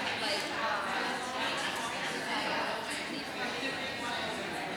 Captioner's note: audience chatter